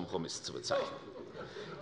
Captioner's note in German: Zuruf von der CDU